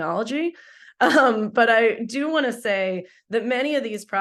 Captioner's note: laughs